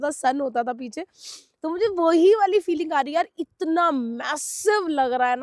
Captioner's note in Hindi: नाक से की जाने वाली आवाज़